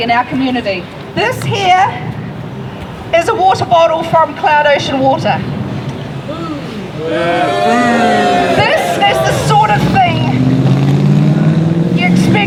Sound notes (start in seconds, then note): 8.9 crowd booing